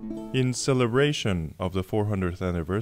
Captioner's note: voiceover